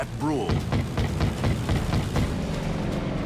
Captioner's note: gunfire